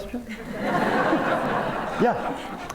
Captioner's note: laughter